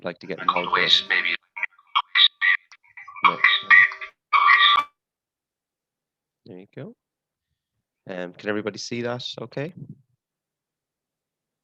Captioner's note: noise interruption